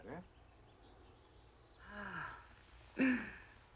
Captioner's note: menghela nafas